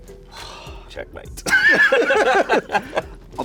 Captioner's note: laughter